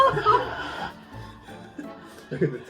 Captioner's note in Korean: tv 소리